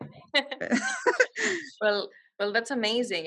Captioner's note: laughing